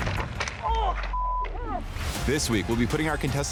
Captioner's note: beep